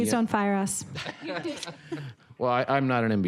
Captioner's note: audience laughs